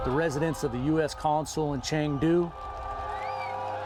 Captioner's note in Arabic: هتاف المتظاهرون